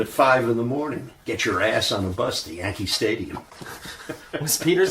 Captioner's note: chuckles